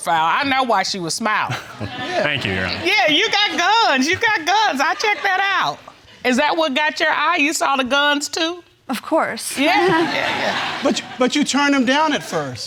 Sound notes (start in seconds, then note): 1.5 chuckles